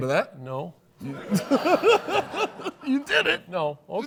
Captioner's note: laughs